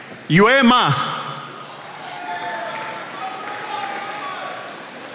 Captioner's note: attendees applauding